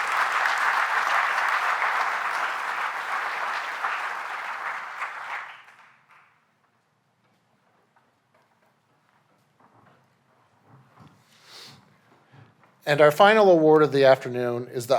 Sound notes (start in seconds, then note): 2.0 applause